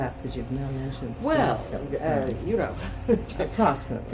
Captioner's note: laughs